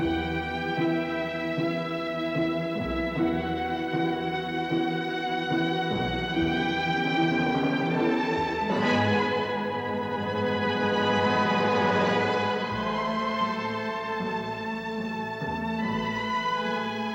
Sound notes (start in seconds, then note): none